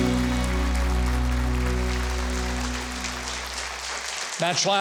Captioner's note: audience applauding